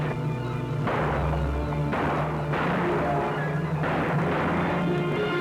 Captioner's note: gunshots